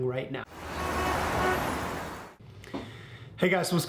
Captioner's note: auto horns blowing